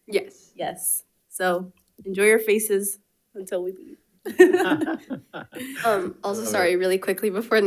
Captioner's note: laughs